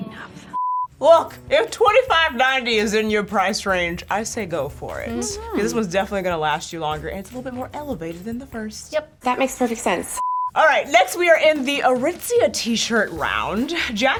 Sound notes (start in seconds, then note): 0.5 color bars beeping; 1.1 upbeat music; 10.1 color bars beeping; 10.4 upbeat music